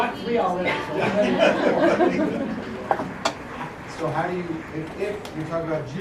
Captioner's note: laugh